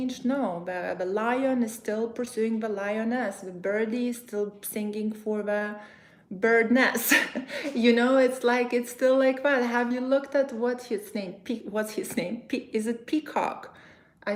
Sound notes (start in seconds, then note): 7.0 chuckles